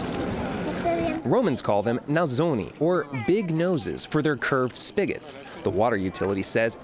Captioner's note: voice-over